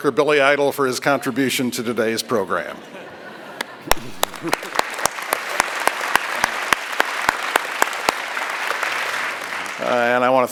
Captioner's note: applause